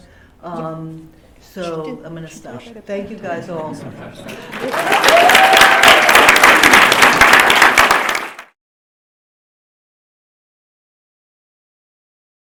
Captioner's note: applause